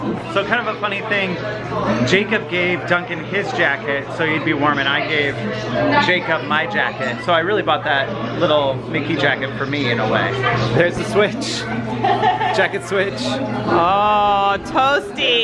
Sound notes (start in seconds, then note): 11.9 laughs